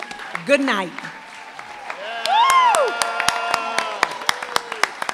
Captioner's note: applause, cheering